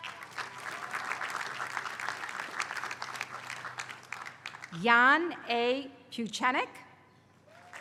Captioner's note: applause; applause